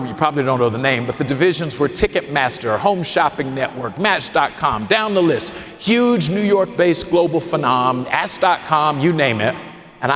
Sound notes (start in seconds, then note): none